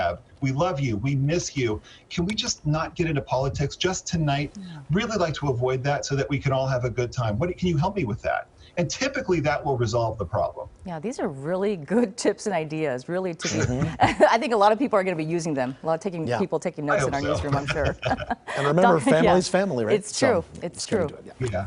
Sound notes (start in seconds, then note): 17.2 laughter